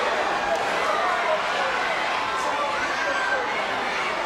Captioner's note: crowd cheering